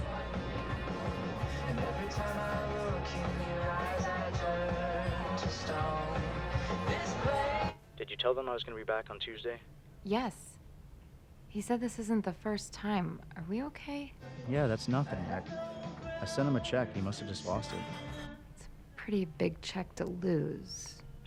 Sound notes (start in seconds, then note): 6.6 on phone